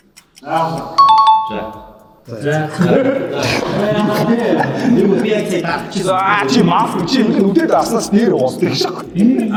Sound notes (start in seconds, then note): 3.2 laughs